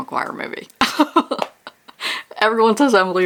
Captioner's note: laughs